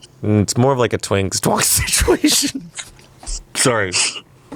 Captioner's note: laughs